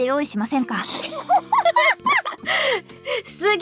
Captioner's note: stunned and laughing out loud